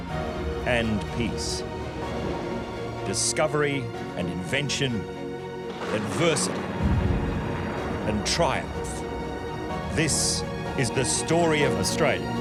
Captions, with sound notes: ...and peace, discovery and invention... -[thunder crashes] -...adversity... and triumph. This is The Story of Australia.